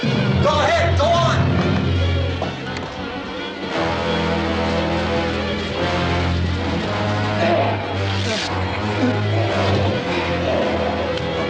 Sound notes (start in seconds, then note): 3.7 sinister music; 7.2 groaning